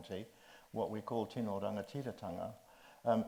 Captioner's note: speaks in Māori